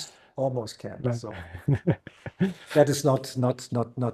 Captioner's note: chuckles